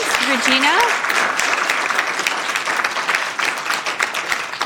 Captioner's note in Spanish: Aplausos